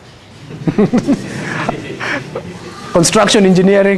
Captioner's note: laughter